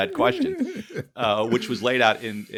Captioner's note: laughs